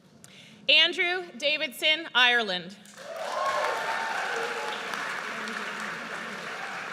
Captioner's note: audience cheers